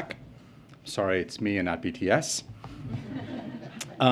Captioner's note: laughter